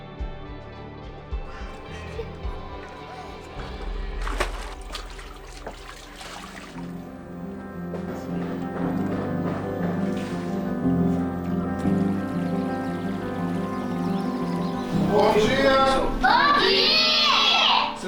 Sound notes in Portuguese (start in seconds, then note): 0.0 trilha sonora esperançosa; 4.5 sons de água; 4.5 trilha sonora esperançosa